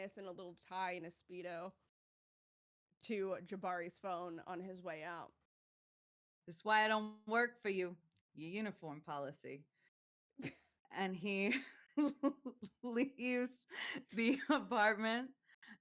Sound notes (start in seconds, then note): 10.5 chuckles